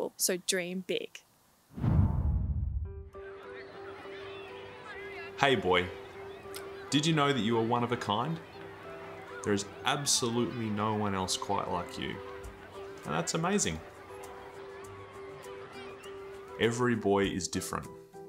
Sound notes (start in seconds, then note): 1.7 birds chirping; 1.7 upbeat music